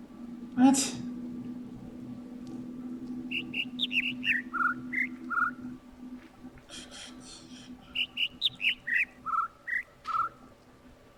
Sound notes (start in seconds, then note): 3.1 overlapping birds chirping, ˥ ˥ ˩ ˧ ˩; 6.1 attempting to imitate notes; 6.1 overlapping birds chirping, ˥ ˥ ˩ ˧ ˩